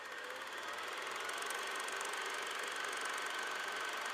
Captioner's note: sound of film reel